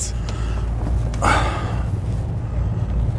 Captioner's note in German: Erleichterter Seufzer